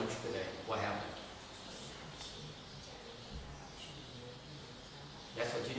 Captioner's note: background chattering